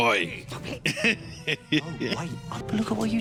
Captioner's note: laughing